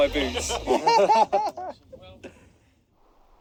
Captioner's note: group laughs